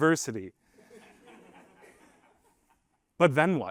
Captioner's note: laughter